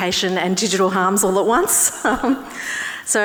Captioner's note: laughs; audience laughing